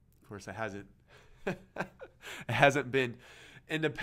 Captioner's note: laughing